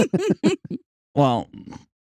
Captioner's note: laughs